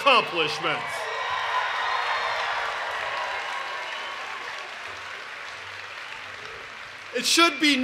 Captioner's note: cheering and Applause